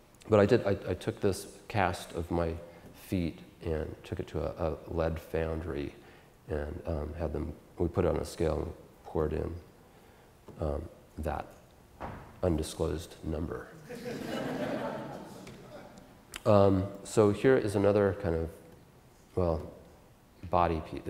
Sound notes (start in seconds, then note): 13.8 audience Laughter